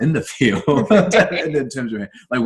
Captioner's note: laughs